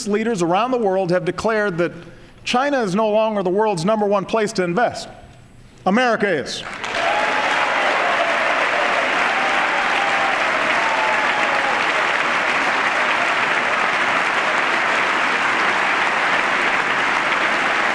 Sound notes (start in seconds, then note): 4.0 applause; 8.4 applause